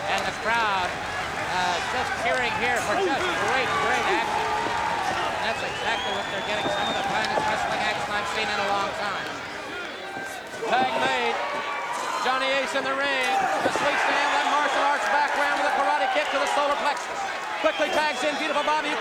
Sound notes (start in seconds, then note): 5.1 crowd cheering